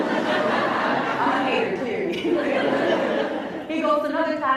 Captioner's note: laughs